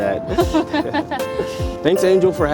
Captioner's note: driver laughs